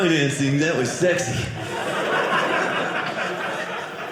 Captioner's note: audience laughing